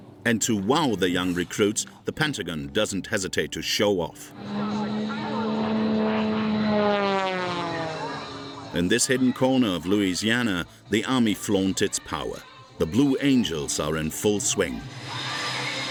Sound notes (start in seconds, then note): 4.3 engine rumbling; 15.6 upbeat music